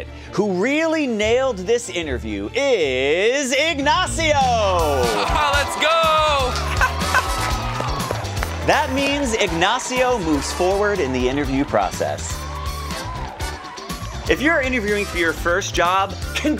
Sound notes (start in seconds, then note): 5.1 crowd cheering; 12.9 cheering continues